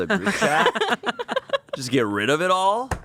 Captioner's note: everyone laughs